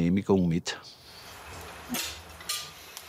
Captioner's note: low clinking